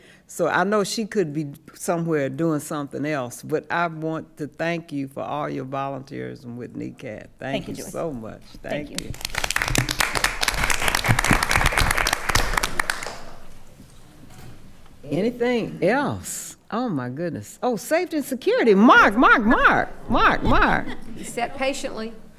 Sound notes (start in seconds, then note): 8.7 attendees applauding